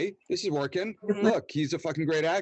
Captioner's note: laughs